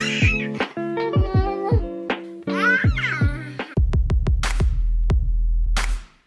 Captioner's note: baby gurgling; upbeat music